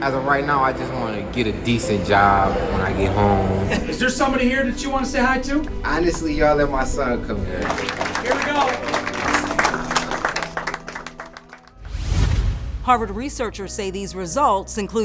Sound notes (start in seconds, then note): 7.5 audience clapping